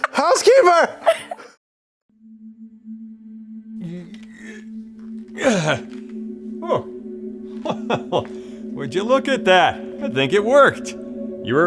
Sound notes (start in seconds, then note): 0.0 laughter; 2.1 gentle electronic tones; 5.4 grunts